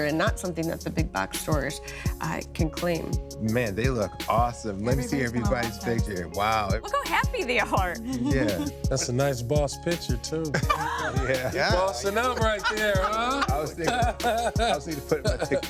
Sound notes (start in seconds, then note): 10.5 laughing